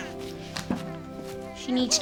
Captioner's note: baby crying